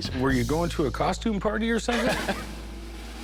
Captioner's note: laughs